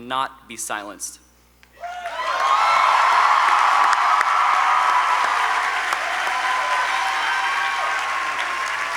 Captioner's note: applause